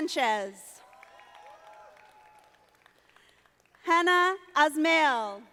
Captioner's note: audience applauding